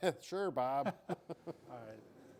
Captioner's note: both laughing